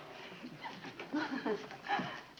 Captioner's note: Joan chuckling